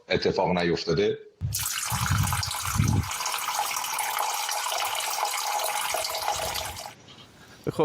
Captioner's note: sound of water